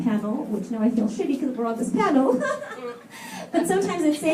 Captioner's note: laughs